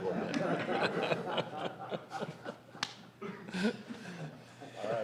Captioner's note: laughter